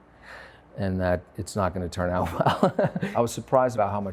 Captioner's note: laughs